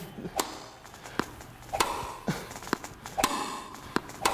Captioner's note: Wii crowd cheers